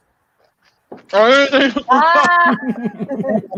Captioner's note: laughing